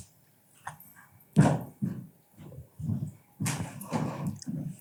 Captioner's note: footsteps thudding